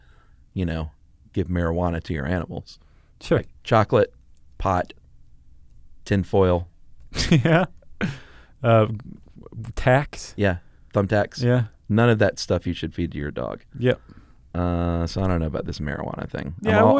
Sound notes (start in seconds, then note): 6.9 laughs